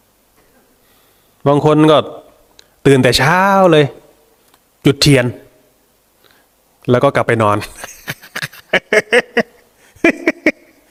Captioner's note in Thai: เสียงหัวเราะ